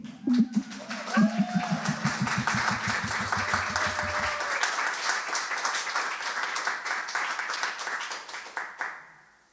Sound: audience clapping

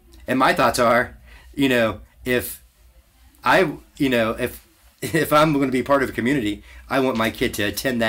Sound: laughs to self

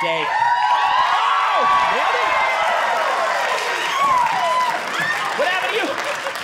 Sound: audience cheering

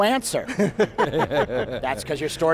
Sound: laughs

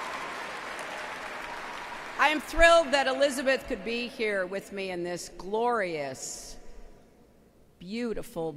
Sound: applause

